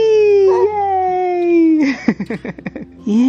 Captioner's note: laughs